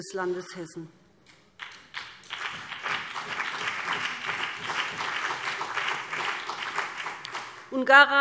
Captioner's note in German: Beifall BÜNDNIS 90/DIE GRÜNEN und CDU